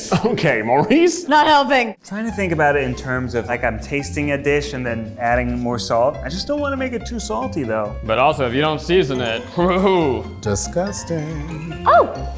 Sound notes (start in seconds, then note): 11.0 groans